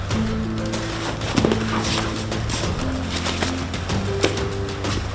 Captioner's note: both thudding